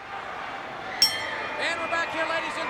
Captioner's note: bell rings